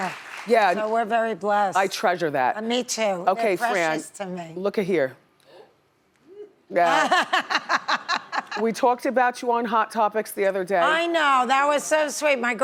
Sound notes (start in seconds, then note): 6.8 laughs